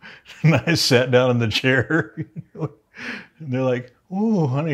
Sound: laughs

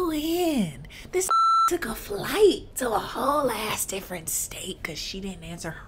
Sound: beep

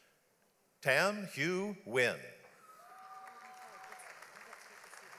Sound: audience applauds

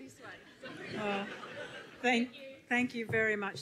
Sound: audience laughs

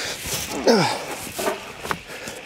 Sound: groan

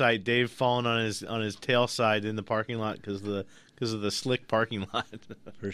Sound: laughs

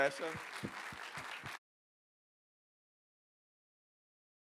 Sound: audience clapping

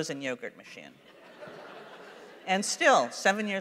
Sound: laughter

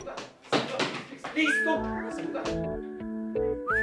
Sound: door opens

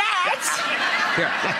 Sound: laughing

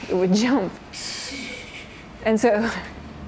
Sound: laughter

